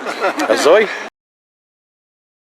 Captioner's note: in Yiddish